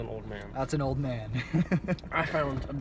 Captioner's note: chuckles